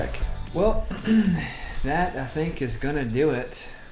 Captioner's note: clears throat